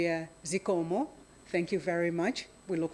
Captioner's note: speaks in foreign language